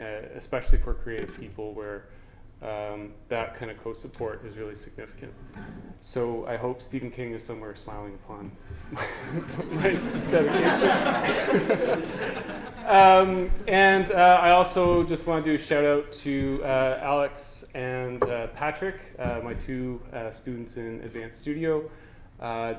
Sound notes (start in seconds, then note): 11.6 audience: Laughter